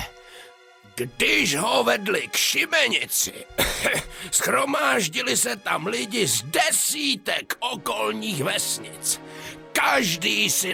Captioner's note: cough